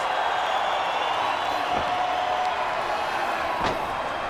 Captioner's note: crowd cheering